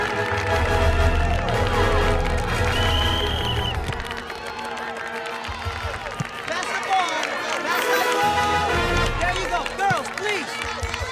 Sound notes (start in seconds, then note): 0.0 audience applauding; 1.5 whistle blows